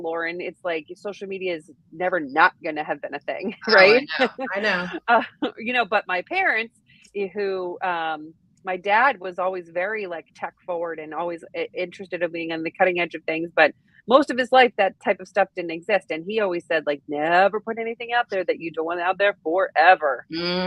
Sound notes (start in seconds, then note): 3.5 chuckles